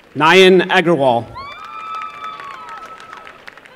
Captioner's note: applause